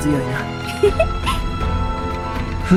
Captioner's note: giggle